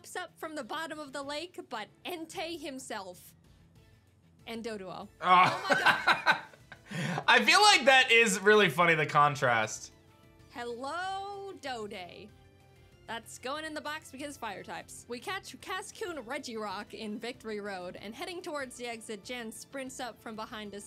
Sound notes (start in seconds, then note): 5.2 laughs